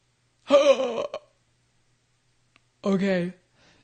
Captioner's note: gasps